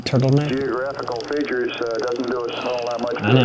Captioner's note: chatter